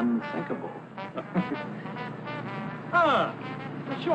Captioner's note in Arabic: ضحك